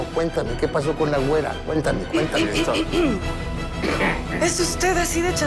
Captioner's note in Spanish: Güera carraspea